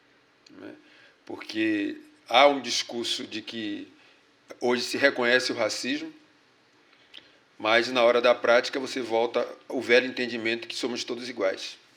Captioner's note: speaking portuguese